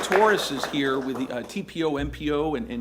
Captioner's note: applause